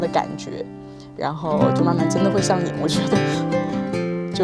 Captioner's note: laughs